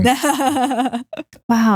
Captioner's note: laughs